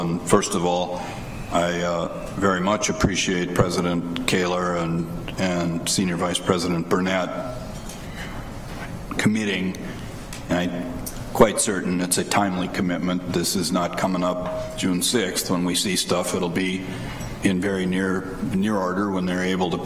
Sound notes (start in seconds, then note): none